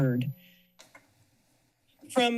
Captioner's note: pause